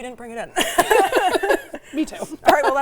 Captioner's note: laughing